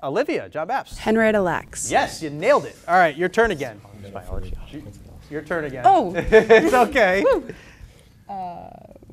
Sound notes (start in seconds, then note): 4.8 background chatter